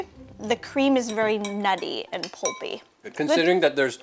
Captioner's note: fork scraping bowl